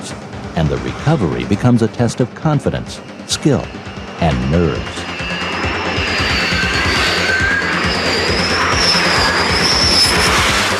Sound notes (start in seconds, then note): 5.2 aircraft whirring; 5.2 intense industrial music